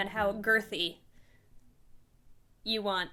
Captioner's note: awkward pause